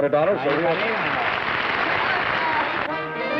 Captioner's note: applause